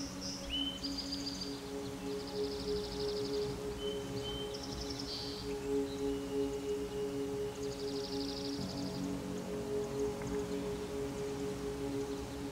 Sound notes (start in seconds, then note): 1.8 birds chirping